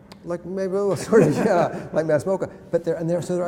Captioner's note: laughter